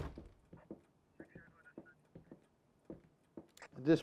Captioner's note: chattering from police radio